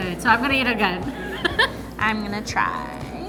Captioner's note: laughs